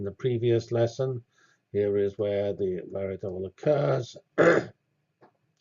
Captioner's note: cough